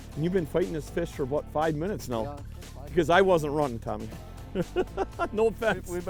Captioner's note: laughing